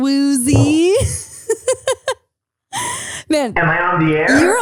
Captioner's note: laughing